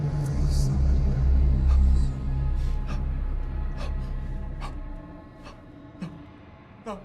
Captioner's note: demonic voice speaking in tongues